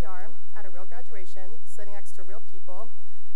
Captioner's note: none